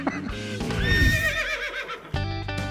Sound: horse neighing

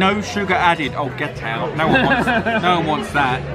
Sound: laughs

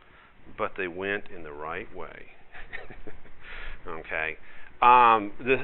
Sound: narrator laughs

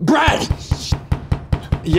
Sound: Roland pounds on the door

